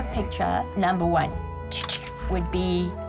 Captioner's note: making "click" sound